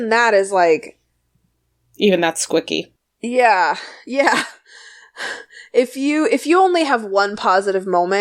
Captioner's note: laughs